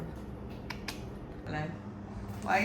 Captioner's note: tongue clicking